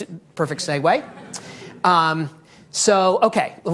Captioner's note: audience laughing